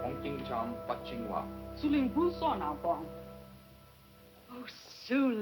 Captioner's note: speaking Chinese